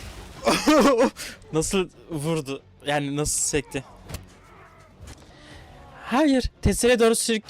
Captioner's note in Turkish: kahkaha